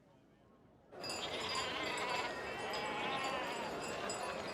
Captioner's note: sheep bleating and bells ringing